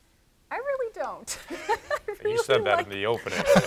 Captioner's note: laughs